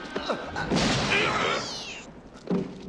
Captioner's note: gunfire; gasps